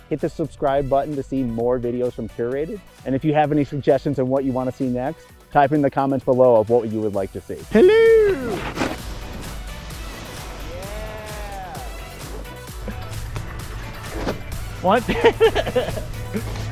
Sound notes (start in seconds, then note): 8.8 snow crunching; 12.0 upbeat music plays; 14.9 laughing